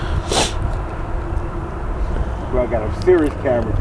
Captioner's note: sniffling